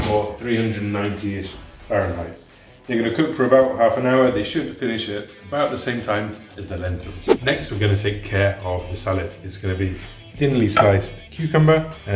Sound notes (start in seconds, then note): 7.1 whooshing